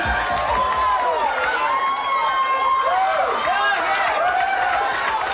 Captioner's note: audience cheers